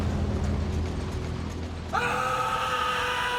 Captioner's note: screaming